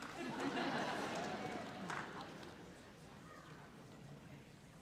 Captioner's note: audience laughs